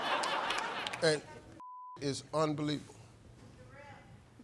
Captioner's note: beep